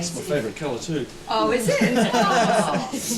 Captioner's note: all laughing